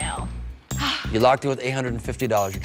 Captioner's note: sighs